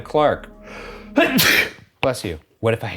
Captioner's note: sneezes